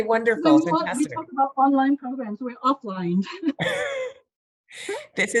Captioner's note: laughing